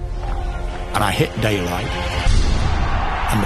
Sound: crowd cheering

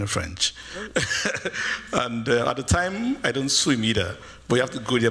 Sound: laughs

